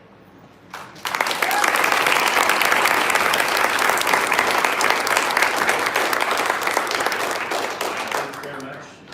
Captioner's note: applause